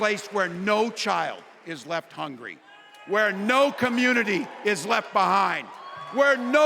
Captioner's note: applause